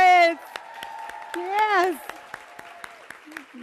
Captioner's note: applause